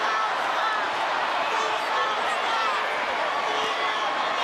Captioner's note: audience cheers